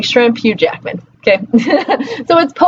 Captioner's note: laughs